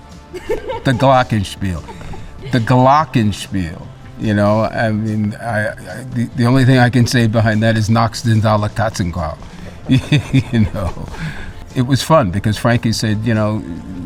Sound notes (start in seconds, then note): 0.3 producers laugh; 8.1 speaks German; 10.9 laughs